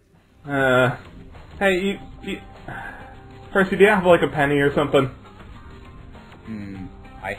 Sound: sigh

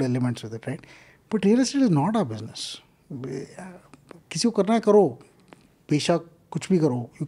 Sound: speaks in Hindi

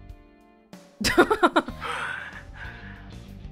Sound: chuckles

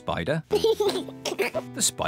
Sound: laughs

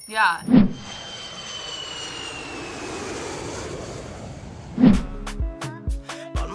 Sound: airplane engine roars

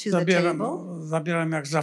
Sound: foreign language

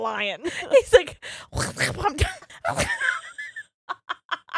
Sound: quacking thickly; laughing

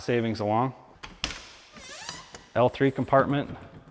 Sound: door creaks

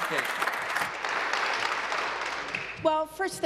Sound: applause

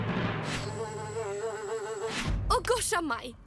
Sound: insects buzzing

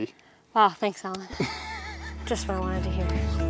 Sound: laughs

